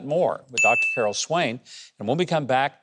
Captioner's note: bell dings